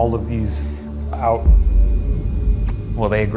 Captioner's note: REM-Pod beeping